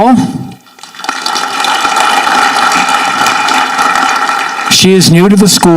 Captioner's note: audience clapping